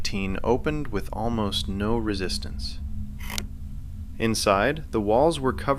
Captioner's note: sound: slow rusted hinge